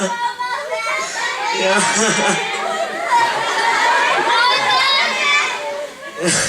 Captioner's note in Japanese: 泣きじゃくりながら